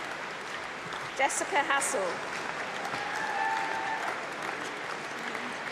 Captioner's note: applause